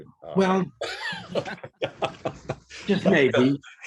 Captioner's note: laughs